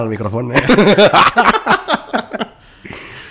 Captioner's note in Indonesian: ketawa